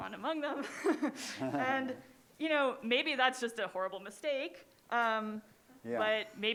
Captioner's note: laughter